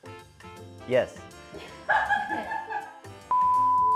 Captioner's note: cackles